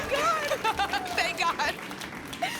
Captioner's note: laughs